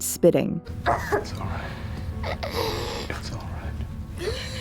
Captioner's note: the girl coughing